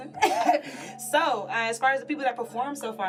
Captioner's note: laughs